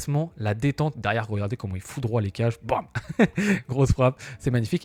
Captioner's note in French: rires